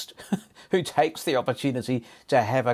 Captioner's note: chuckles